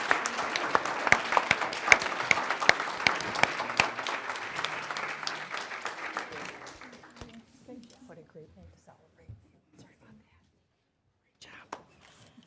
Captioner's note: applause